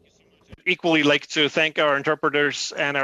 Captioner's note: speaking FRENCH